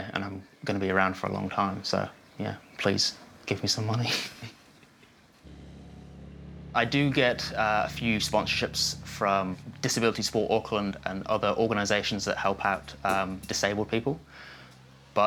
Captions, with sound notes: and I'm gonna be around for a long time, so, yeah. Please, give me some money. (CHUCKLES) I do get a few sponsorships from Disability Sport Auckland and other organisations that help out disabled people,